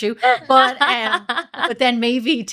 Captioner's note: laughing